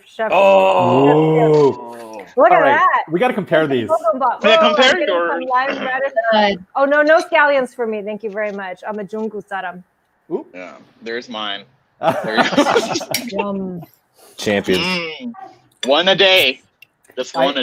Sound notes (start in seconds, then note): 9.2 foreign words; 12.0 laughing